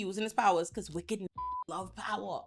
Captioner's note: beep